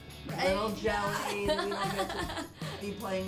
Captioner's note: laughs